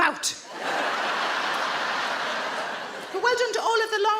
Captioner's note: audience laughing